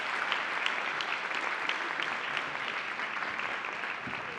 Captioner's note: attendees applauding